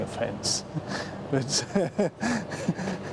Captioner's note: laughs